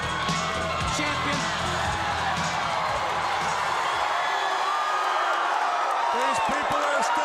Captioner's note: crowd cheering